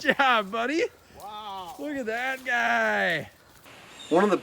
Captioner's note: laughs